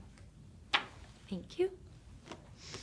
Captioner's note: card rustling